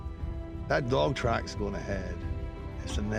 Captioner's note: scottish accent